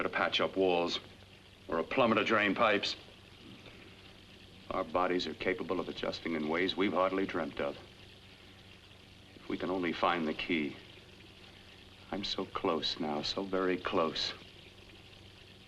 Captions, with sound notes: to patch up walls...or a plumber to drain pipes. Our bodies are capable of adjusting in ways we've hardly dreamt of. (water running) If we can only find the key... I'm so close now, so very close...